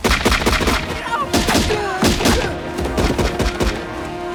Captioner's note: North Korean Soldiers Yelling